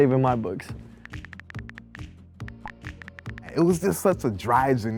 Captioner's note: upbeat music; typing sounds